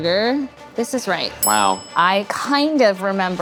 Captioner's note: bell dings